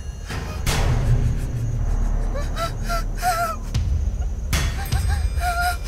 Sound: Anna Marie crying

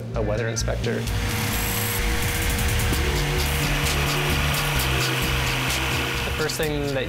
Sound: buzzing

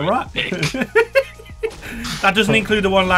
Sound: laughing

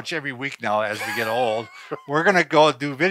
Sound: laughing

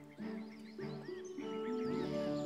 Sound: birds chirping

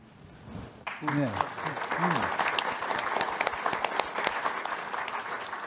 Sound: audience applauding

